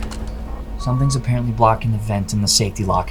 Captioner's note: computer beeps